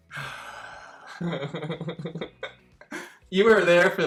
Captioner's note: laughing